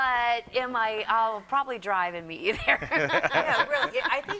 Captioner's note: laughs